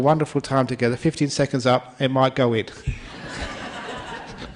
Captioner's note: laughter